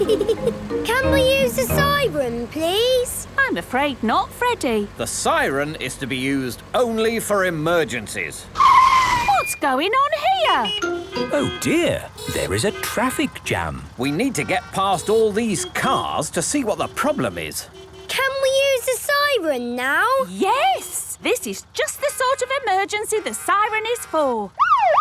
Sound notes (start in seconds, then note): 8.8 brakes screeching; 11.3 honking